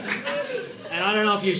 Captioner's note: audience laughing